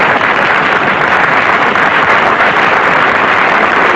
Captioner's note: applause